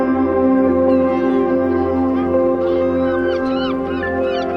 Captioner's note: seabirds squawking